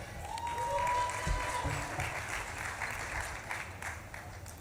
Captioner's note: audience claps and cheers